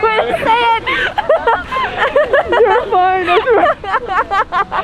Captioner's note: woman laughs